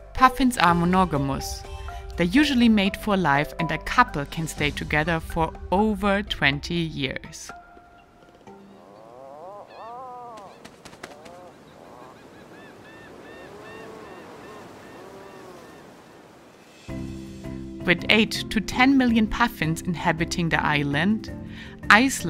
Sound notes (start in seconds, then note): 8.1 wings flapping; 8.6 puffin grumbling